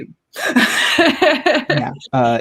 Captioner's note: laughing